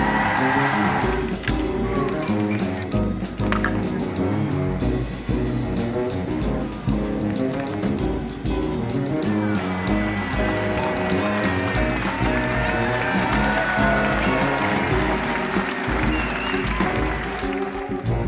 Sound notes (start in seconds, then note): 0.0 cheering; 2.1 brightening upbeat music; 12.5 cheering